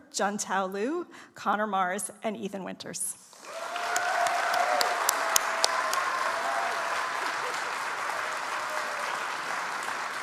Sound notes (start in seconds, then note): 3.3 audience applauds